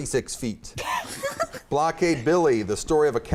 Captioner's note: laughter